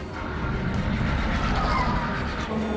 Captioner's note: tire squeal